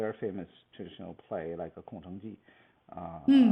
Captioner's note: speaks Mandarin